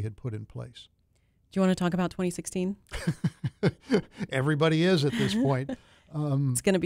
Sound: laughter

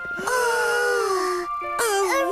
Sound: both Gasp

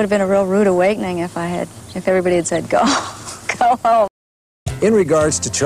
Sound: laughing

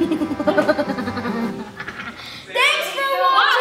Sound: evil laughter

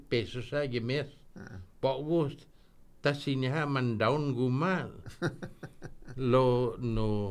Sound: laughing

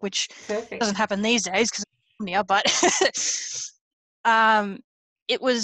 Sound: laughs

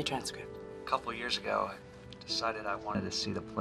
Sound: on speaker

